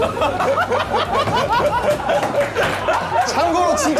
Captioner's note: Tertawa